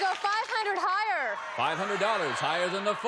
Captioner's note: applause